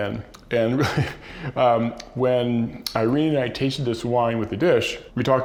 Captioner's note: laughs